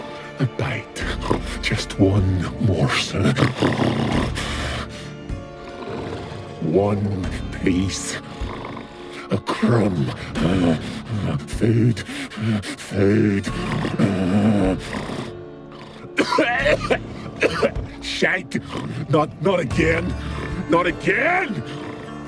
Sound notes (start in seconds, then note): 16.7 hacking cough